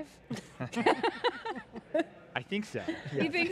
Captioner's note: laughs